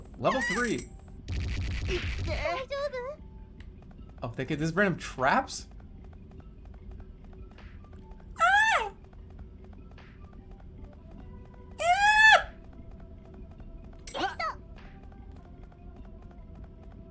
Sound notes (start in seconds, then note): 8.3 girly voice